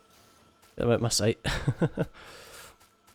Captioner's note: chuckle